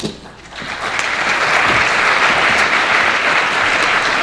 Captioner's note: audience clapping